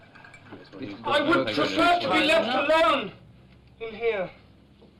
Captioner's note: shouting